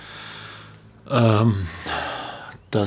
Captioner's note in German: Seufzen